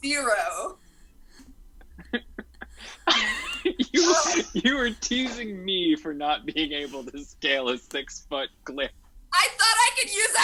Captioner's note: laughing